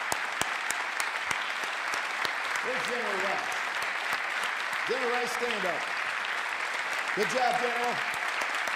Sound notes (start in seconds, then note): 0.0 applause